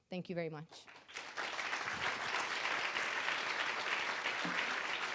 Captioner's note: audience applauding